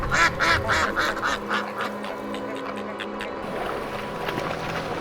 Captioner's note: water splashing